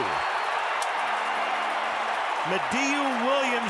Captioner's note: crowd cheering